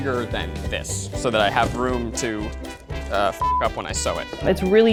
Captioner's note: beep